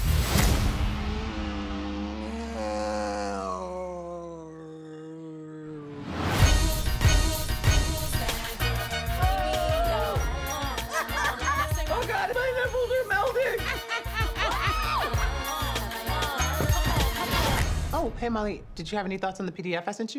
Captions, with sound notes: [moaning, groaning] [audience cheering] [both laughing] Oh, God. My nipples are melting! [laughs, cheers] Oh. Hey, Molly. Did you have any thoughts on the PDF I sent you?